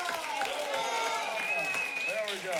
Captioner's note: applause, whistles and screams